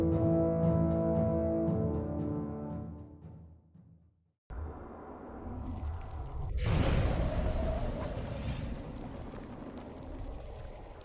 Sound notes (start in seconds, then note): 4.5 soft music; 6.1 jellyfish whooshing